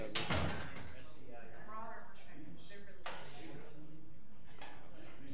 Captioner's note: people chattering